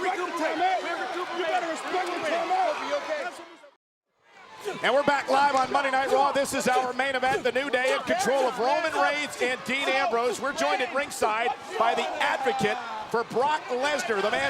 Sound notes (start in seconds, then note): 4.3 crowd roars faintly; 6.0 wrestlers grunt